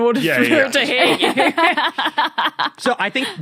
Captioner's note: laughs